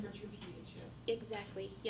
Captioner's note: faintly speaking